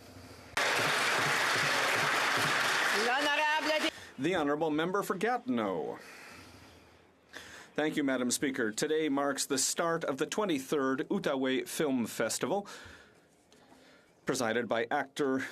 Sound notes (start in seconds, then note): 4.6 applause